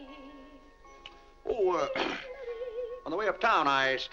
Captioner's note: clears throat